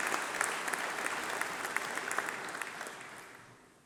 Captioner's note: applause